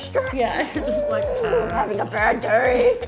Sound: growling

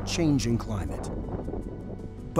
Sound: wind howling

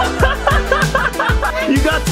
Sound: laugh

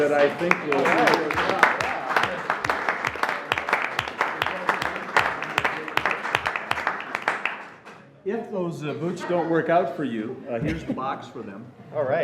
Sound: applause

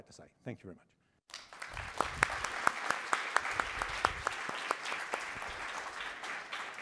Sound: applause

